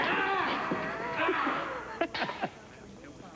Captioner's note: laughing